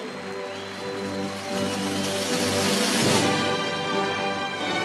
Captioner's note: cheering and applause